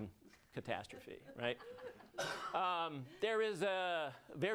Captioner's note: audience laughs